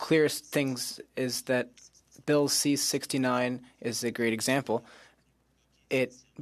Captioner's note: speaking French